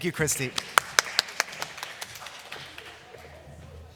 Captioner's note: applause